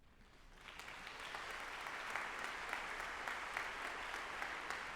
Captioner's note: audience applauding